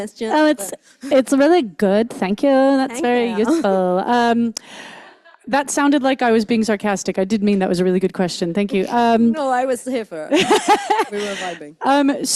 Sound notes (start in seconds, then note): 3.4 chuckles; 10.3 laughs